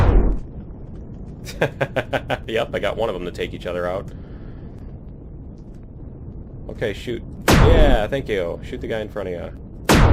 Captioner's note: laughs